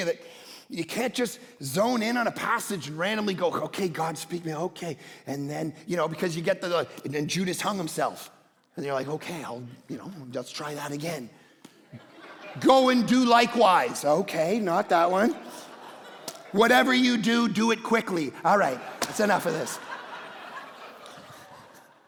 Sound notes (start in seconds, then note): 11.8 congregation laughing; 19.5 congregation laughing